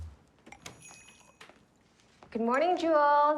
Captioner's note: chimes tingling